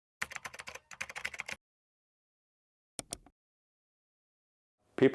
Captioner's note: keyboard keys clacking